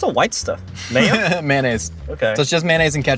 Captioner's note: laughing